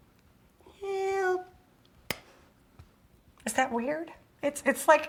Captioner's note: whispers; whispers